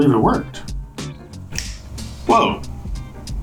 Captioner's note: fingers snap